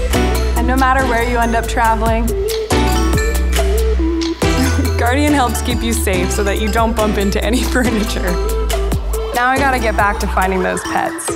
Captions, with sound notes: And no matter where you end up traveling, Guardian helps keep you safe so that you don't bump into any furniture. (laughing) Now I gotta get back to finding those pets.